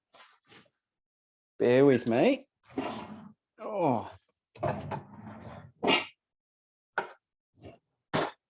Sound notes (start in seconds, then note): 2.7 drawer whooshing; 4.6 drawer whooshing; 4.6 drawer bangs